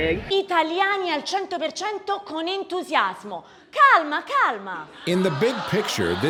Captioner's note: speaking foreign language